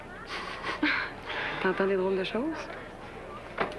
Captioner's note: Rires